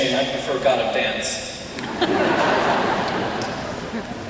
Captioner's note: laughter